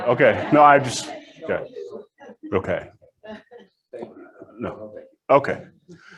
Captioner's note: audience laughs